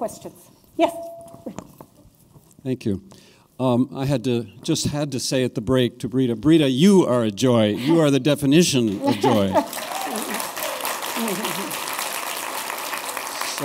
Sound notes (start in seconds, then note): 11.4 applause